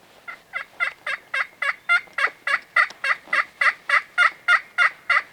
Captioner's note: turkey call yelping